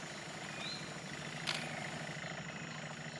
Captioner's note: camera shutter clicks